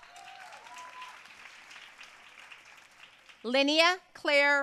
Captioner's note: audience cheering and applauding